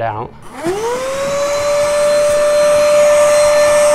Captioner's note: vacuuming